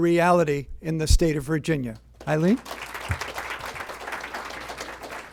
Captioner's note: applause